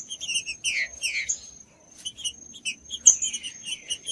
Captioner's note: trinca ferro cantando